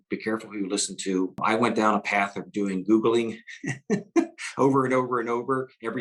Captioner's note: laughs